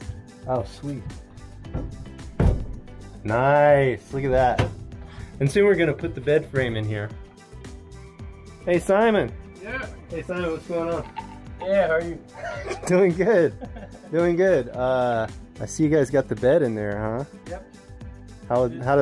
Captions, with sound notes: Oh sweet Niiice Look at that And soon we're going to put the bed frame in here Hey Simon! Yep? Hey, Simon what's going on? Doing good *laughter* Doing good I see you guys got the bed in there huh? How did that work out?